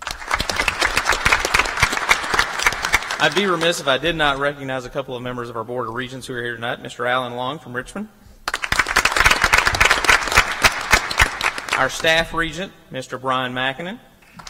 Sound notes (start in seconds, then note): 0.0 applause; 8.4 applause